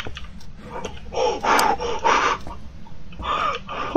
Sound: heavy breathing

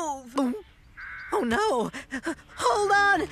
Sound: gulps!

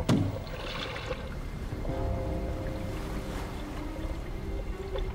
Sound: water burbling

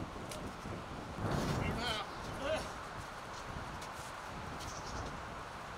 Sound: air whooshing loudly

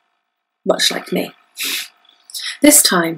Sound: sniffs in amusement

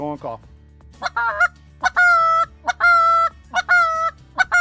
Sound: goose call squawking

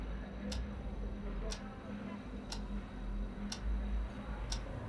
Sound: the clock ticks loudly

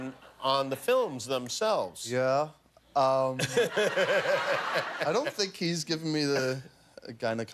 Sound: laughter

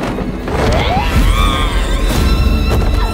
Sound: squeals

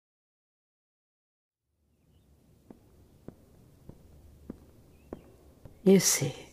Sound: fade in echoing footsteps

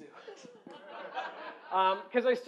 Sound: laughter

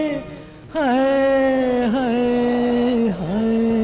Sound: none

